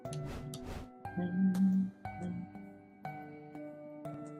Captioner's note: humming along